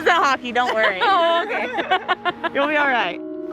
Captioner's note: laughs